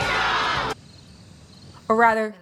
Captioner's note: crickets